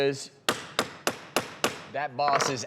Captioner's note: banging of gavel